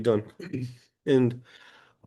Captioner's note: clears throat